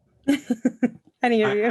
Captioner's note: laughing